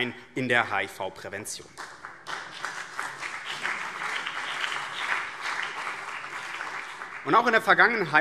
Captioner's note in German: Beifall BÜNDNIS 90/DIE GRÜNEN und CDU